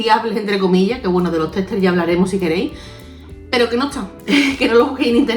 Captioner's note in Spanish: risas